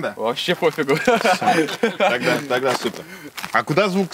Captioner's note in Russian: смеется